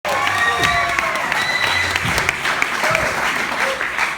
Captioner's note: applause